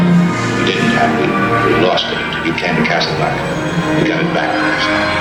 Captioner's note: voice of Humphrey Bogart